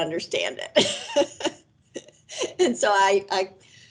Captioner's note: laughs